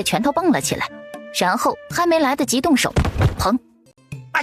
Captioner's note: bang!